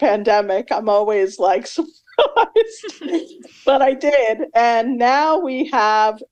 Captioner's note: laughs